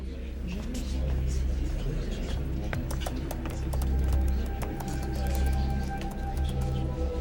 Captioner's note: overlapping chatter; ominous music begins